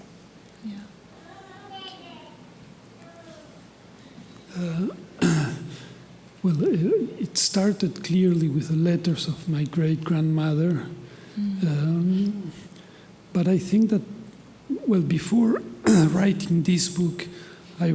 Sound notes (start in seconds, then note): 1.6 baby vocalizing